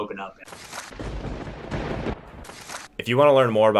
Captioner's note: thunder rumbling